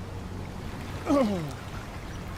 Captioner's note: grunt